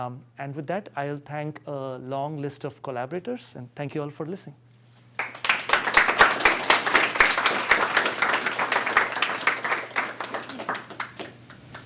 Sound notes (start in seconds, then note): 5.1 applause